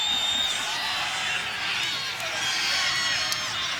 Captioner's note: crowd cheering